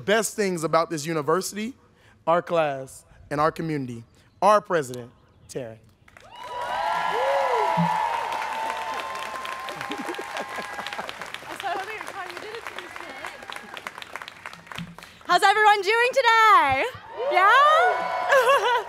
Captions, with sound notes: one of the best things about this university, our class and our community, our president, Taryn. - Woo. (students cheering) - How's everyone doing today, yeah?